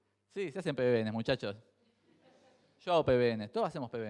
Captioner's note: crowd chuckles